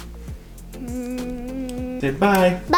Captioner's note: hums